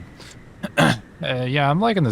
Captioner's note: clears throat